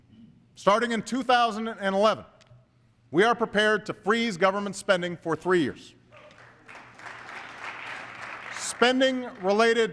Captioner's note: applause